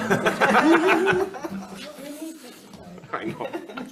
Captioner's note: committee laughs